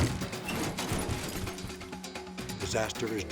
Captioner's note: metal squeaks